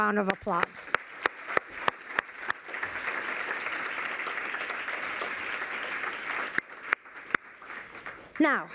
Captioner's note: applause